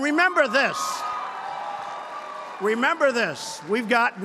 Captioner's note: applause